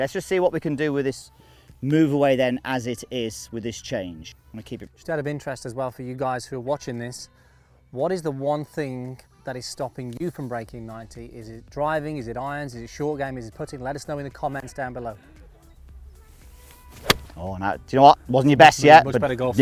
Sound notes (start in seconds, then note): 16.3 golf ball hits